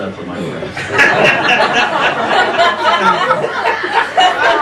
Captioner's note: laughing